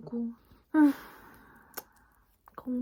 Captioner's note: deep sigh